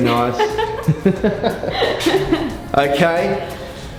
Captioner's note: laughs